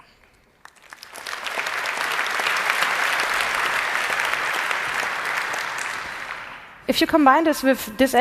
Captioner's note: applause